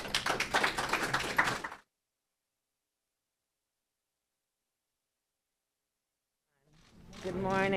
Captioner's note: applause